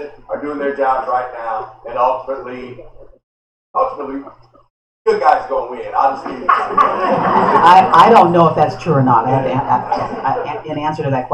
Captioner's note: laughter